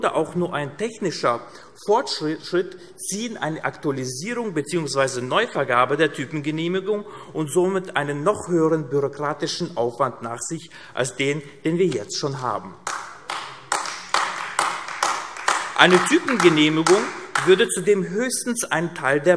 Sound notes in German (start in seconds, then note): 12.8 Beifall AfD